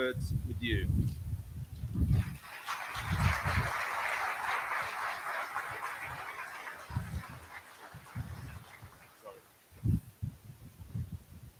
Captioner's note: applause